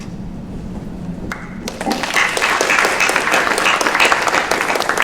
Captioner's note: applause